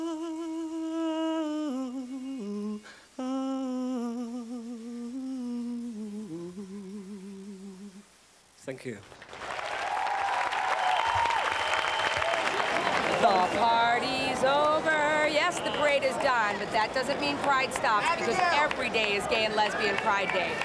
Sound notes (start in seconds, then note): 9.5 crowd cheers; 14.2 in singsong voice